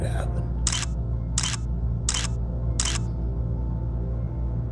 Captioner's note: camera shutter clicks